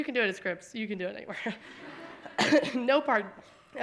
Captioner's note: audience laughing